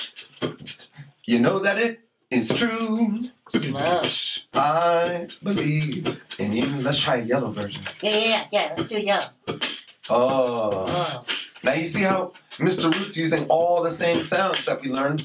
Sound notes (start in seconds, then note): 9.3 Mr. Root beatboxing slowly